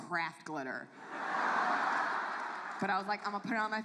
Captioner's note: audience laughs